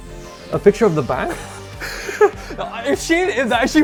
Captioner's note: laughing